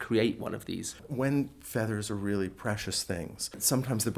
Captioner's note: voiceover